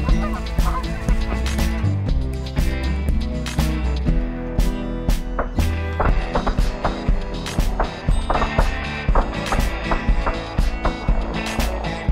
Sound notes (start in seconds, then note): 0.0 geese Honking; 3.4 gunShots